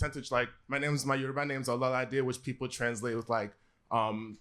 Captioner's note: yoruba